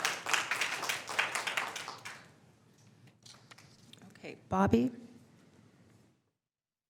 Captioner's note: applause